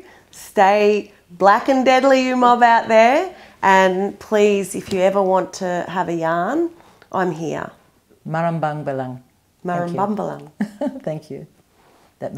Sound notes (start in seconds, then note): 8.2 non-english speech; 10.6 laughs